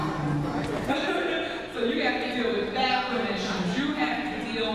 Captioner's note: laughs